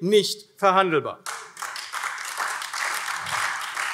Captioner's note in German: Beifall AfD